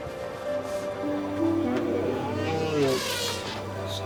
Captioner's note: elephant bleating